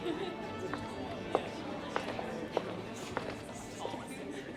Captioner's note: footsteps